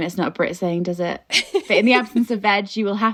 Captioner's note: laughing